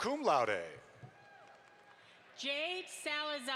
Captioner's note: audience applauds